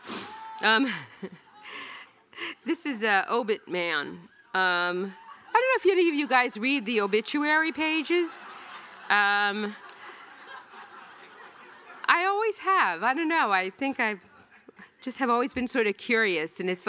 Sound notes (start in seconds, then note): 8.7 audience laughing